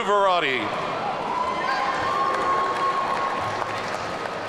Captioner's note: audience cheering